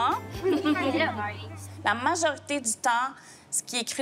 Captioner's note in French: rires